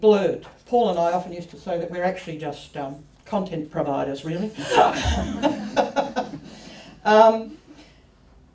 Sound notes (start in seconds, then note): 4.6 laughter